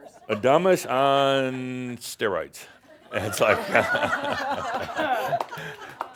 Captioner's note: more laughter as he models her graduation hat